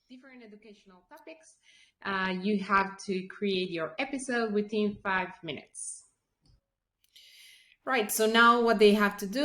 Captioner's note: playback audio